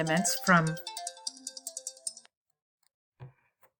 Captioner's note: phone ringing